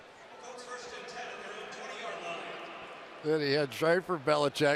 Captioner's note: pa announcement